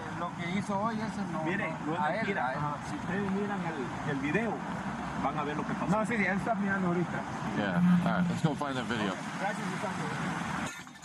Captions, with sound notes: (Man speaking Spanish) (Man speaking Spanish) (Officer speaking Spanish) Yeah All right Let's go find that video Okay Gracias muchachos